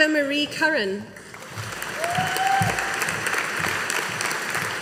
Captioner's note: audience applauding